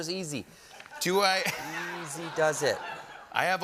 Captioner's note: laughter